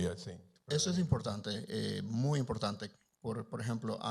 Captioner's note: Spanish language